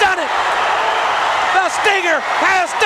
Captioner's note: crowd cheering